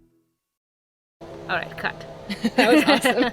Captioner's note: laughs